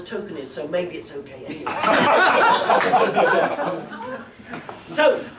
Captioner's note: laughter